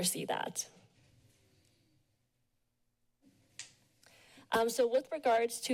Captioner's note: pause